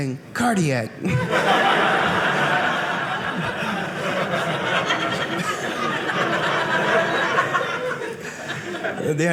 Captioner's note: audience laughing